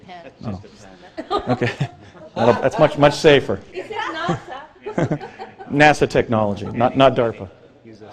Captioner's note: Risada